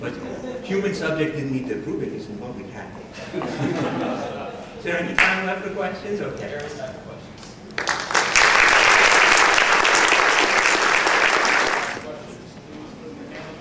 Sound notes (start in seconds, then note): 7.7 applause